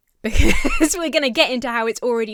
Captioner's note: laughs